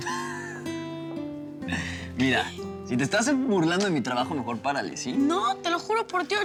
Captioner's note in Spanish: risas